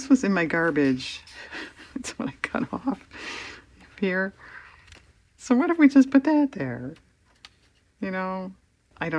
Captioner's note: laughs